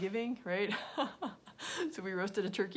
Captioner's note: laughing